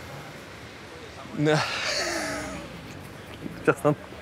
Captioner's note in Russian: смеётся